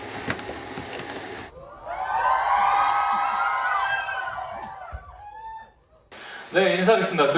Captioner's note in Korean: 환호성으로 반겨주는